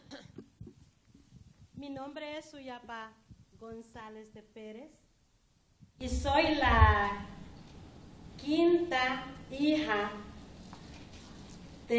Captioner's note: speaking spanish